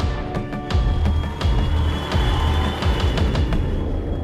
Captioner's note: crowd cheering; dramatic music